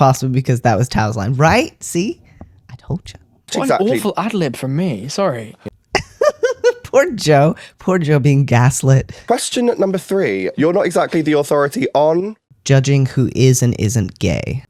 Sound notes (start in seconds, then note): 5.9 laugh